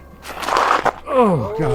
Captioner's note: foot sliding